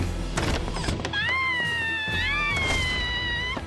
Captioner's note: screams